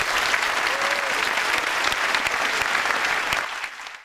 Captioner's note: audience applauds